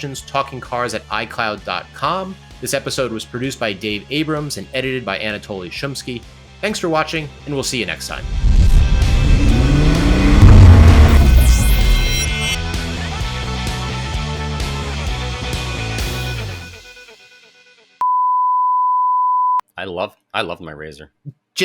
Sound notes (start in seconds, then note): 9.9 engine roar